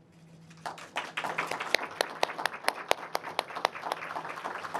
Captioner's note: audience applauding